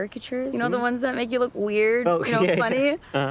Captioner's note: laughing